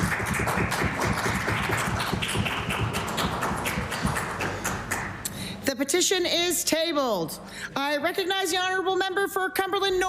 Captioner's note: applause